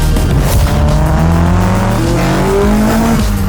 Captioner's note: engines revving